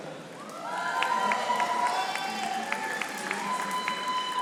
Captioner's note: audience applauding